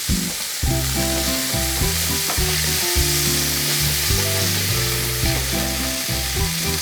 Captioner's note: broccoli continues sizzling; buoyant music continues